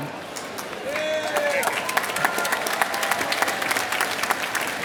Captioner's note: applause